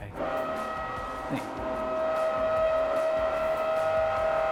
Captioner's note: drill roaring